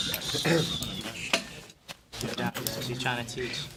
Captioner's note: murmur